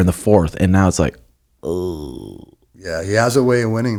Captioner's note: groans